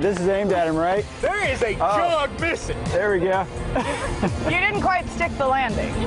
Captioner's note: laughter